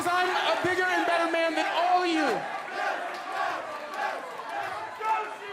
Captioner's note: cheering